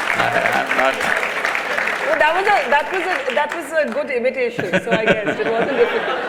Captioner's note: laughter